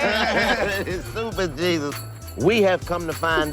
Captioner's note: Chico laughs